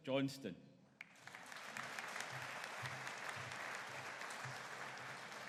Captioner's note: audience applauding